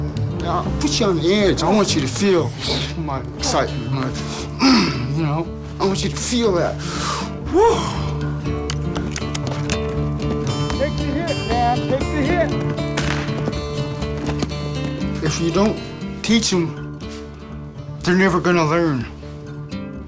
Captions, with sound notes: You know, I'll put you on the edge, I want you to feel... (grunting) You know? I want you to feel that. Whoo! Take the hit, man! Take the hit! (gunshot) If you don't teach them, they're never gonna learn.